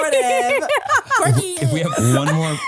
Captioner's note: laughs